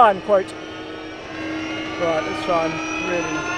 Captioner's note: engine revving